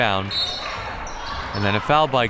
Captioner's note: whistle